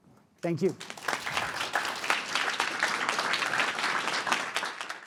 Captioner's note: audience applauding